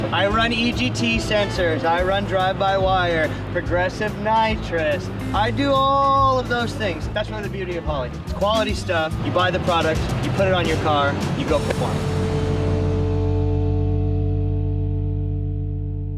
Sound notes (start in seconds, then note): 12.3 electrical humming